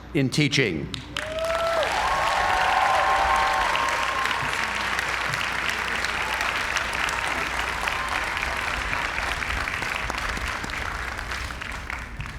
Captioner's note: applause